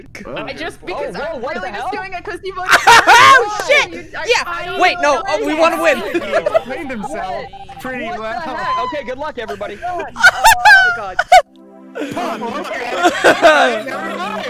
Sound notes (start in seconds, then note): 3.0 laughing; 5.8 laughter; 11.9 laughter